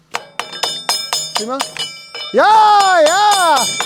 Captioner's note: Hämmert laut auf Metall